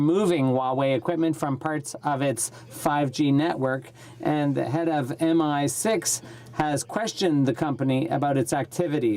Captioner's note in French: voix de l'interprte